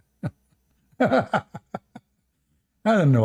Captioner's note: Ketawa